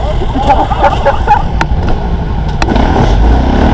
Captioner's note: laugh